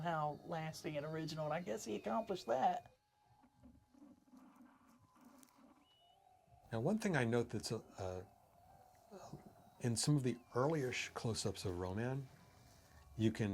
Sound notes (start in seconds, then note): 0.0 view screen whistles; 2.9 static